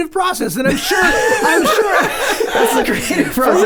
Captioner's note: group laughs